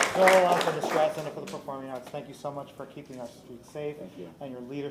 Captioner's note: applause